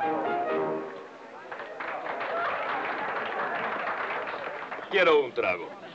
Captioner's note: people applauding